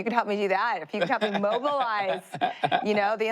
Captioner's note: laughs